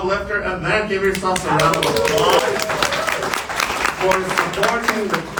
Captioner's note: applause